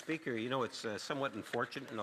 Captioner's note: speaking French